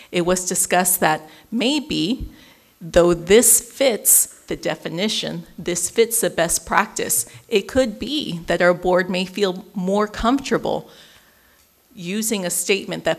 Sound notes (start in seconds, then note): none